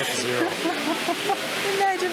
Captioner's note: laughs